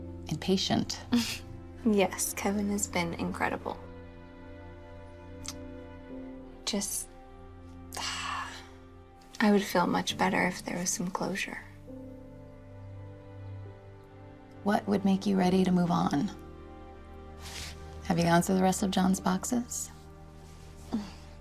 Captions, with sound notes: - (chuckles) Yes, Kevin has been incredible. Just, (sighs) I would feel much better if there was some closure. - What would make you ready to move on? Have you gone through the rest of Jon's boxes?